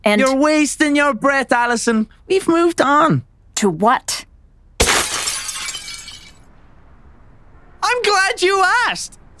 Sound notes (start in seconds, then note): 4.8 glass shatters